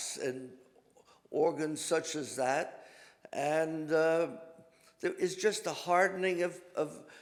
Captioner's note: none